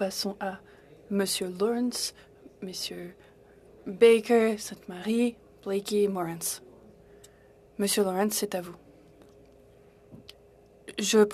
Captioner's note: speaking French